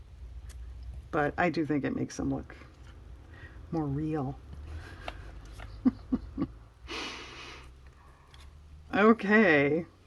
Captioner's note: laughs